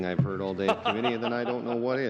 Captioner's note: laughter